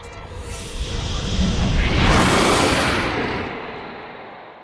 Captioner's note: booming distortion